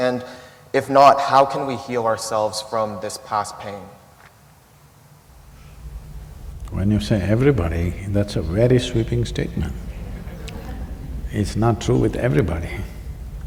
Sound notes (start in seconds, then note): 9.9 laughter